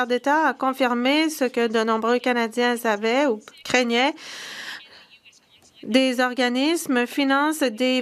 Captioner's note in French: voix de l'interprète